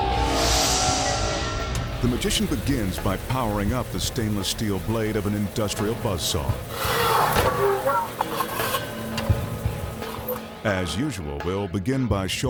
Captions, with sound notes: (graphics whooshing) The magician begins by powering up the stainless steel blade of an industrial buzz saw. (saw buzzing) As usual, we'll begin by showing you